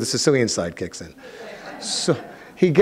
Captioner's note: audience laughing